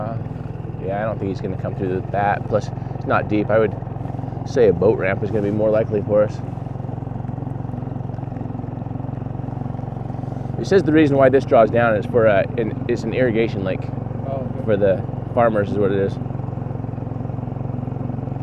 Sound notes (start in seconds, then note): 7.4 boat rumbling